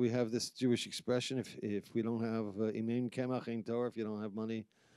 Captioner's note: speaking in foreign language